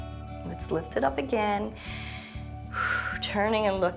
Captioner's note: inhales and exhales